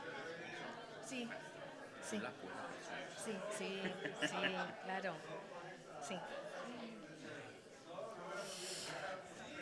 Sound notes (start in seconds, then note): 1.1 speaking Spanish